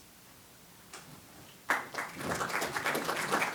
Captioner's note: applause